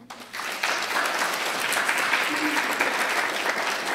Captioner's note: applause